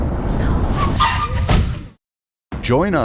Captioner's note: tires screech